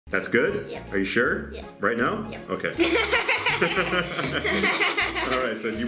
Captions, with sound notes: - That's good? - Yeah. - Are you sure? - Yeah. - Right now? - Yup. - Okay. (laughs) Alright, so do you want to pour or